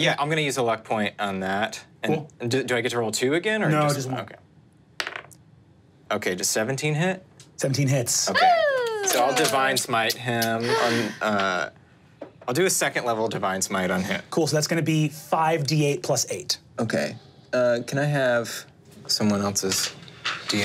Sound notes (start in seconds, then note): 5.0 die taps table; 8.3 cheers